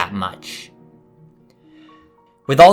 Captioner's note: inhale